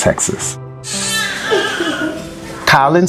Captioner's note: baby cries